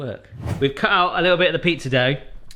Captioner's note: air whooshing